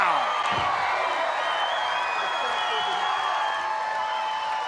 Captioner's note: crowd cheering